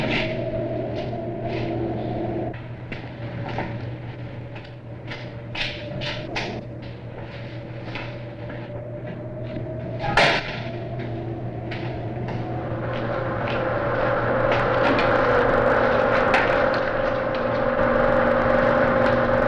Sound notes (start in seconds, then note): 13.6 projector whirring